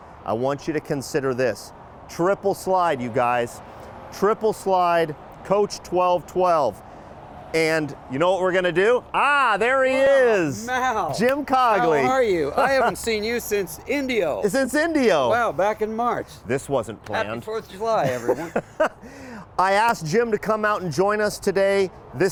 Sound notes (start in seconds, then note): 17.6 laughing